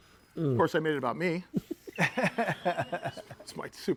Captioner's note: laughing